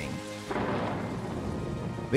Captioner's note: <i> thunder rumbles</i>